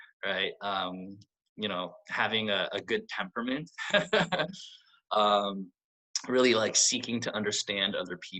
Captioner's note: laughs